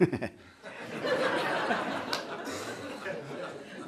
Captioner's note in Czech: smích